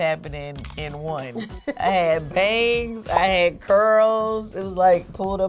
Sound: laughs

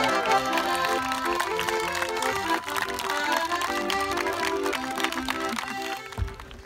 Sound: cheering and Clapping

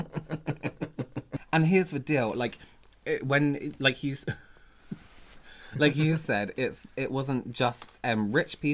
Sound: Laughing at James's makeup

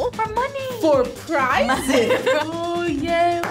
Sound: laughs; clapping

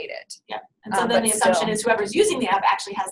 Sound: voiceover

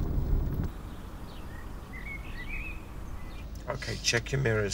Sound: birds singing

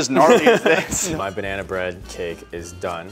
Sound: laughs

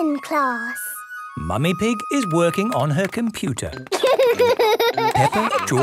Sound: laughter

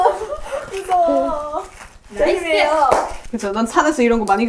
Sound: scratch scratch

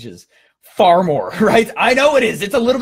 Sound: laughing

